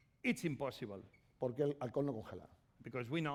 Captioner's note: speaking spanish